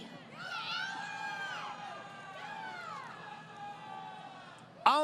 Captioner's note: crowd Cheering